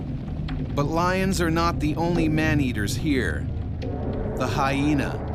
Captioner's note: voiceover